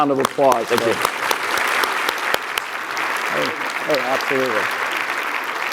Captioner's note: clapping